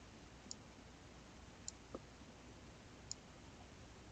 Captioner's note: mouse clicking